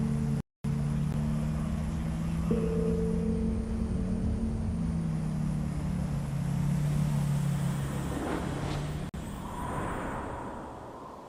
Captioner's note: enginrunning